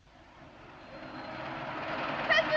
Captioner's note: engine revs